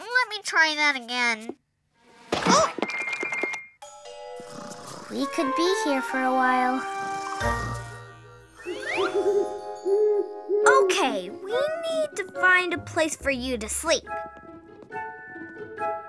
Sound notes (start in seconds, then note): 4.4 Snap Pea snoring; 8.9 owl hooting